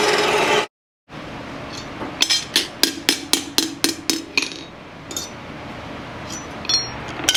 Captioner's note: hammer